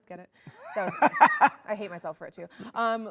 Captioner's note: laughs